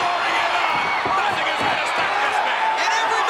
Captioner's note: crowd cheering drowns out Vince